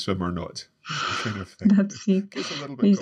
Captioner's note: laughter